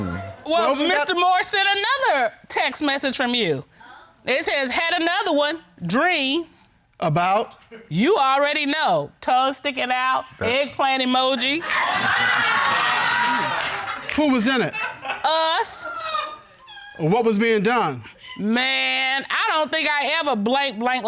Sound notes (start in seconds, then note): 11.4 audience laughing